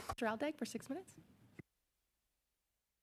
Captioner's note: speaking French